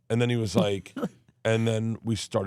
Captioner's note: Steph laughing